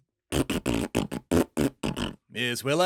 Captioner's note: this flatulence noise contains a swear